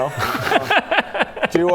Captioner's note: oh-here-we-go laugh